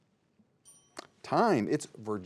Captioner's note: bell dings